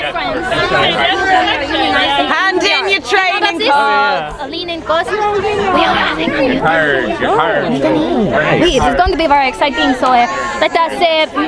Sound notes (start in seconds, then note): 5.9 people chattering